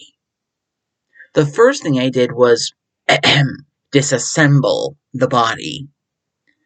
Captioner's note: ahem